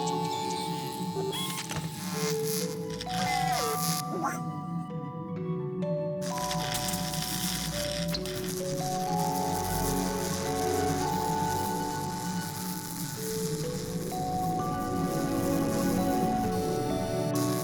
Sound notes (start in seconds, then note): 3.0 warbles; 3.9 gasps; 6.0 electric buzzing